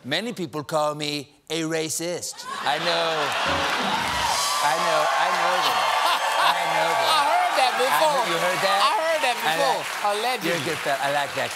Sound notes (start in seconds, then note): 3.4 piano riff; 3.5 laughter; 8.8 cheers and applause